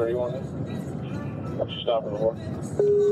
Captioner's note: radio chatter